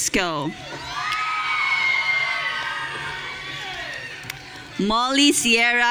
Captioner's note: audience cheering